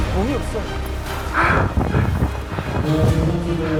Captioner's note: catching his breath